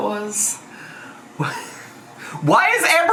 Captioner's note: chuckles